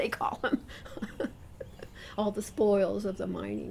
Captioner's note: laughs